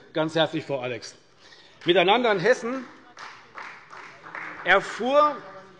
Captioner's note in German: Beifall bei der CDU